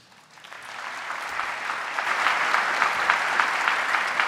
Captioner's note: audience applauding